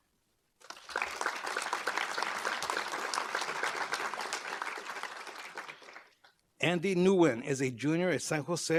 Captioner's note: applause